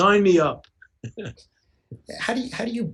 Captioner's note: chuckles